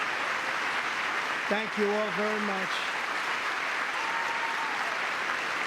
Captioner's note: cheering; applause